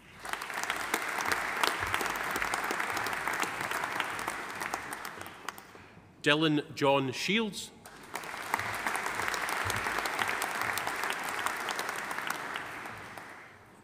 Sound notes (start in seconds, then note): 0.0 audience applauding; 7.8 audience applauding